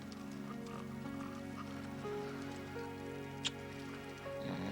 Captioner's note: Jebadiah snoring